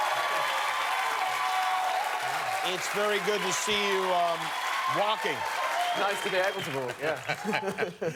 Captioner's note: cheers and applause